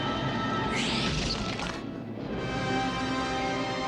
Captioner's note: squealing